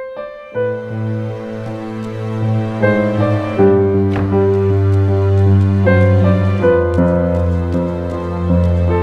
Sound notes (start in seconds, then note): 2.4 door closes